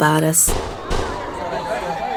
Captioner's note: gunshots; siren wails